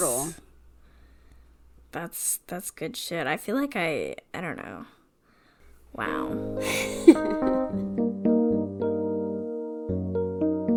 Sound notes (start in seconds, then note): 6.6 laughs; 8.4 transition music